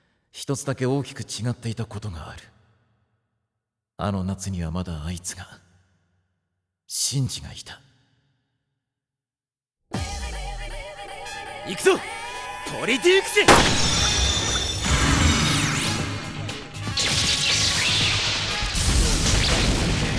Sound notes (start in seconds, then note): 13.4 Evoker firing; 16.5 battle noises